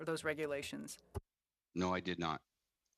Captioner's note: speaking French